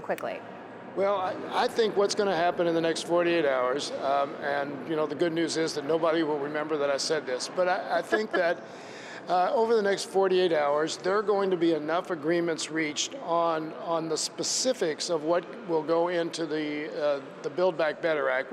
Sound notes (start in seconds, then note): 8.0 laughter